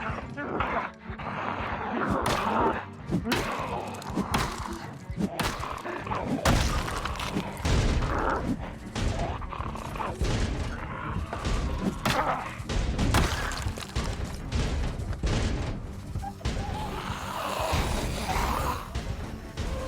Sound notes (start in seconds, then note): 0.0 light tense music; 0.0 zombies growling; 2.1 blows thudding; 16.0 zombies growling